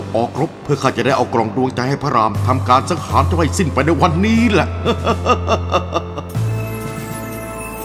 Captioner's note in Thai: หัวเราะ